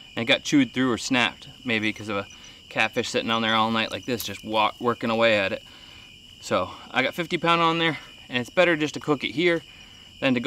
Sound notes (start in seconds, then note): none